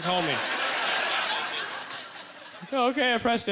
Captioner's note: audience laughter